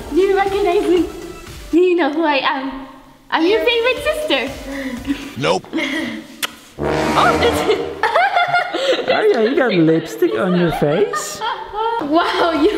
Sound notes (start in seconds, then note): 4.8 laughing; 5.5 disembodied Voice; 6.4 kissing lips; 6.8 dramatic music; 7.4 laughing; 11.1 laughing